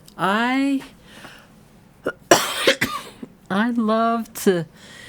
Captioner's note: coughing